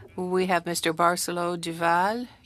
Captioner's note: speaking French